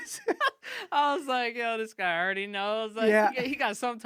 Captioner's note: laughing